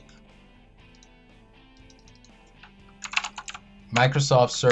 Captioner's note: keyboard keys clicking